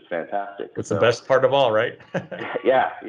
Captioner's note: laughs